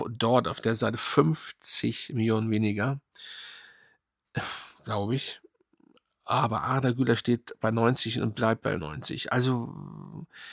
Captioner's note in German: seufzt